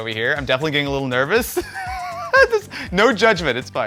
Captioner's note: chuckles